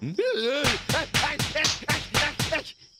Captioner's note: groaning